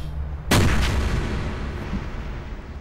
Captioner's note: gunshot